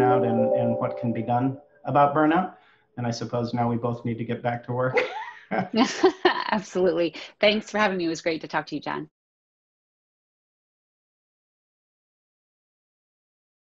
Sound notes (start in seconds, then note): 4.9 laughing